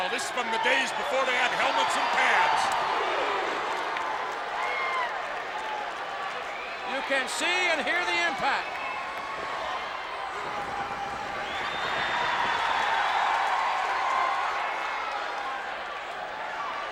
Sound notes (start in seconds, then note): 2.4 audience cheers; 12.1 audience applauds and cheers